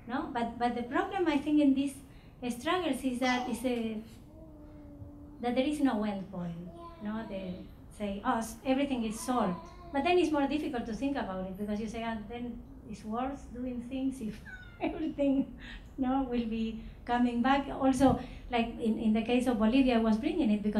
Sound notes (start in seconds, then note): 14.3 laughing